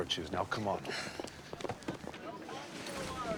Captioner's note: sighs